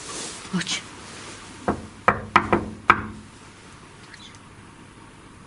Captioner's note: knuckles wrapping on door